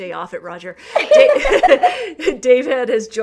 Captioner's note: laughter